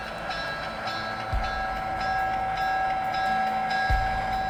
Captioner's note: bell ringing